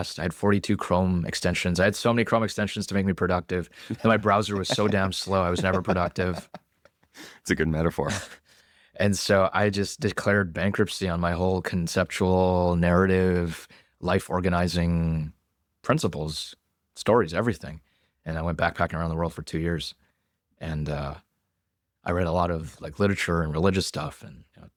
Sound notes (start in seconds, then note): 3.7 laughs